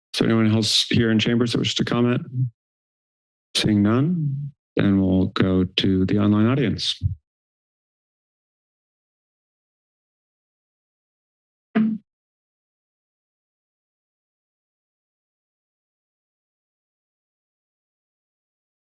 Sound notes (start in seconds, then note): 7.3 pause